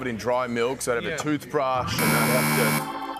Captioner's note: buzzer